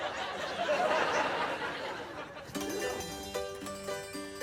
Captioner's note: audience laughing